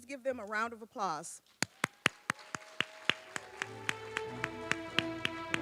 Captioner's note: applause